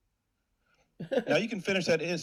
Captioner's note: laughs